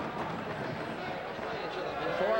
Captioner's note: loud chatter